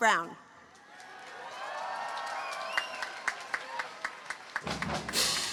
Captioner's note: cheering, applause